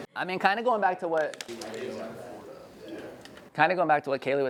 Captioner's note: audience members murmuring